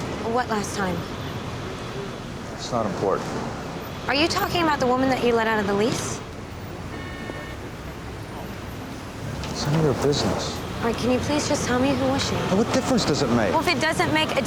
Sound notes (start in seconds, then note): none